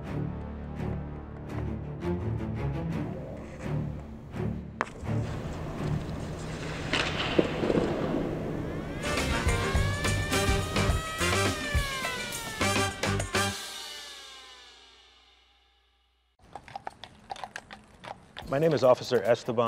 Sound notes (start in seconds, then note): 0.1 dramatic music; 13.9 sirens wailing; 13.9 upbeat music